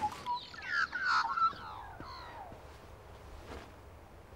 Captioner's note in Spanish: pájaros trinando